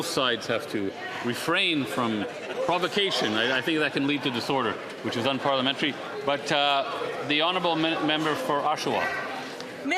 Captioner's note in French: voix de l'interprète